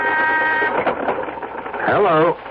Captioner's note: horn honking